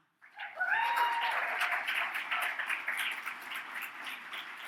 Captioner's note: audience cheers